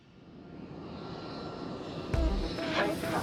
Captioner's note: plane roaring